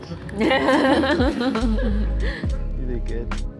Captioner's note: laughing